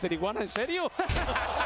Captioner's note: laugh